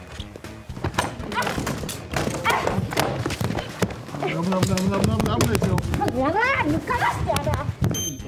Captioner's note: arguing